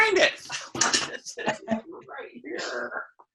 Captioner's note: laughing